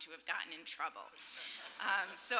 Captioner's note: laughter